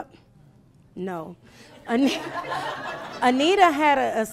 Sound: laughing

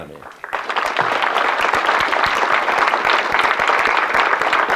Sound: audience clapping

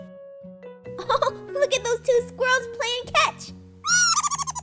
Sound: laughs

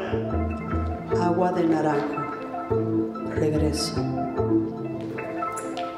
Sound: speaking in Spanish

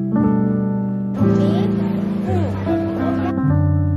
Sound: calling

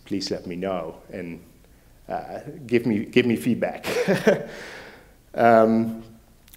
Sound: laughs

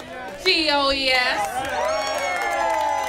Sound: applause

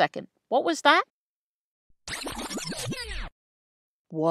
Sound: rewind sound effect

